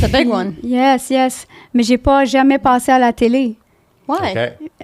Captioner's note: in french